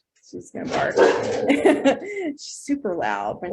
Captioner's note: dog barking